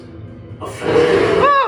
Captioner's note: roar